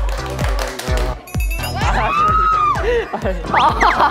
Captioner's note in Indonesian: Bersorak setelah satu gerakan